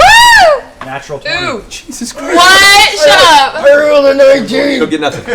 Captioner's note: hoarsely